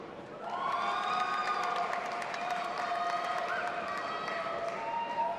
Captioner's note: audience applauding and cheering